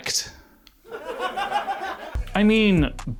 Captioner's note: audience laughs